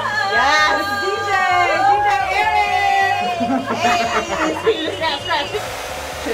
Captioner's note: the girls cheers in the background